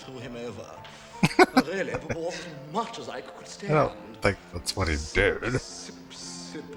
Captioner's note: laughing